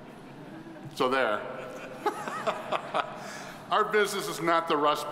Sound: all laughing

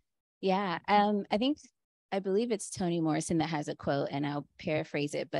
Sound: Chineze

